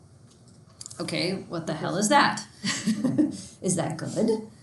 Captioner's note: chuckles